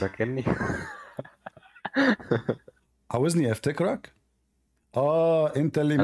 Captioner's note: Ketawa